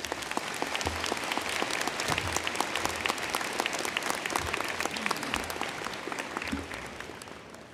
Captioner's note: applause